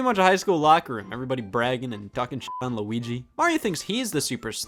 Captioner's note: beep